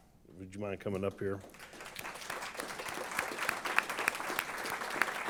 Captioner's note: applause